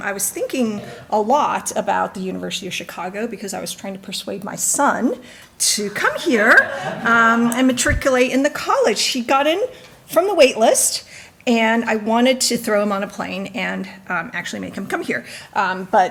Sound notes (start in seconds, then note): 6.3 audience laughing